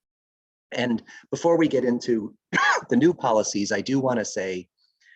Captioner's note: coughs